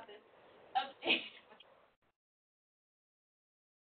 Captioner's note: laughing